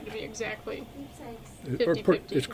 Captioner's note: phone rings